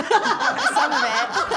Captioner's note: all laughing